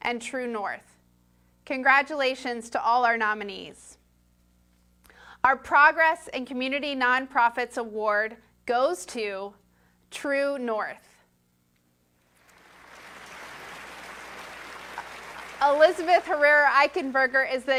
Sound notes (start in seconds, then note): 12.2 applause